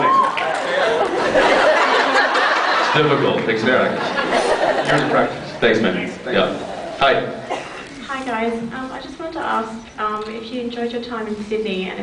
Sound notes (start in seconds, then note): 0.4 laughs; 4.1 scattered laughs